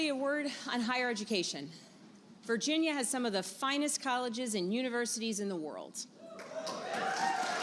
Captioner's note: applause